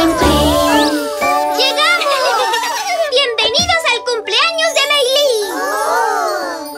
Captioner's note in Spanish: Risas